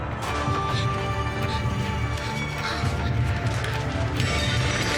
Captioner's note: Marlee gasping over whooshing strikes; glass shattering